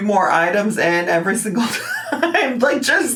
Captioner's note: laughs